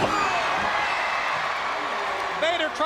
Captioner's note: crowd cheering